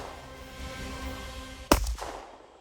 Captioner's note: epic music; gun shots